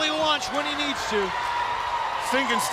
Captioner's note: audience cheers